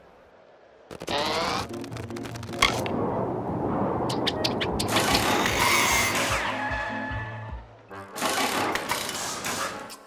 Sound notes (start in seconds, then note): 5.0 mechanical whirring